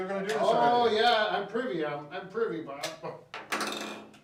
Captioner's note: laughs